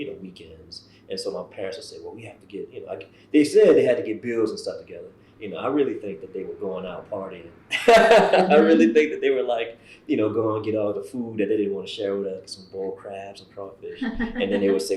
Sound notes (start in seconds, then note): 7.8 laughs